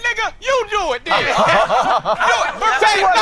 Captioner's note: all laughing